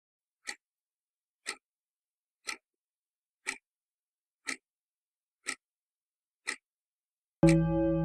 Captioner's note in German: tickende Uhr; alter Tagesschau-Gong